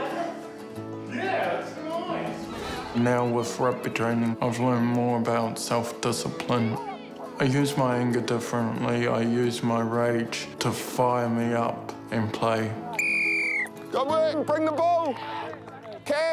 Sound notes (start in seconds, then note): 12.9 whistle blows